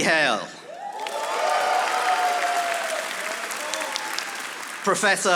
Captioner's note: audience applauding